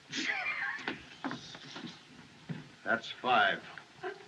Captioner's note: laughing